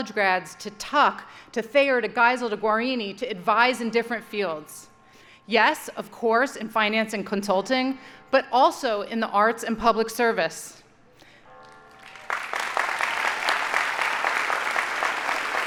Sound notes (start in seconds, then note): 11.6 audience applauding